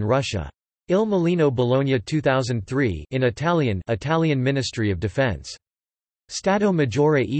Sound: in Italian

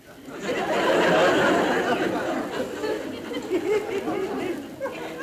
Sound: crowd laughing

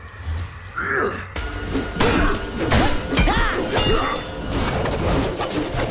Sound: grunting

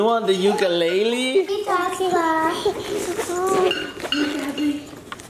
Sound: bag unzipping

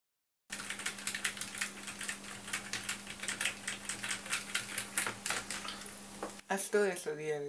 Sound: sound of keystrokes on the keyboard

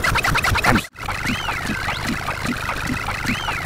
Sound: Applejack Whistle

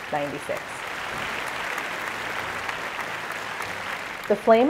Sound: applause

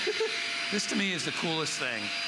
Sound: laughter

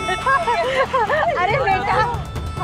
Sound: laughing

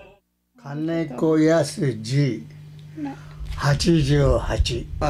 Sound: speaking foreign language

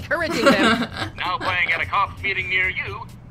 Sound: laughs

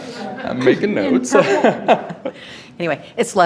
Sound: laughs

